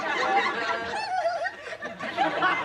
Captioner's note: giggling